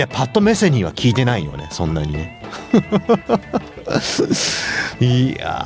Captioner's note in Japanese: 笑い